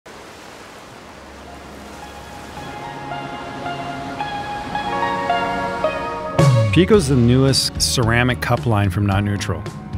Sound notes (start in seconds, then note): 0.0 waves crashing; 2.1 cheerful guitar music fades in